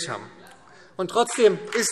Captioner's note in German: Beifall SPD